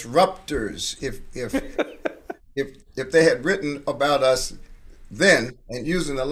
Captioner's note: laughing